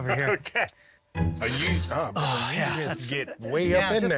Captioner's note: inhales